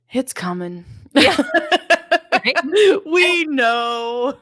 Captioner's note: laughing